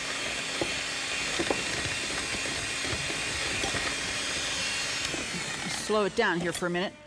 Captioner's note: blender Whirring